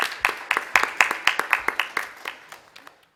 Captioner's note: applause